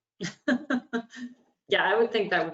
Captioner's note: laughs